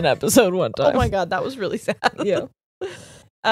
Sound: laughs

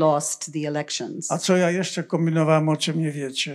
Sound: foreign language

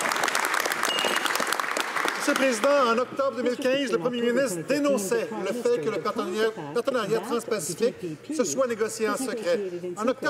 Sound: some applause

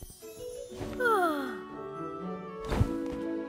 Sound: yawning

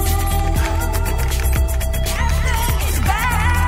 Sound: keyboard clacking

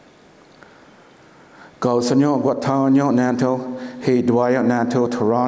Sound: foreign speaking

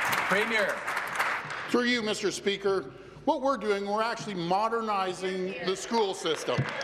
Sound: some Applause

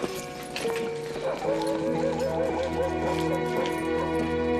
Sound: dog barking

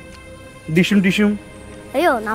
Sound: imitating punching sound

